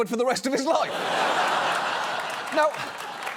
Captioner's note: audience laughs